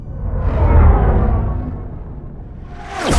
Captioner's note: ship whooshes